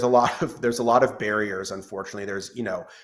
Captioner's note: laughs